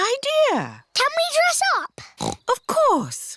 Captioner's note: snorts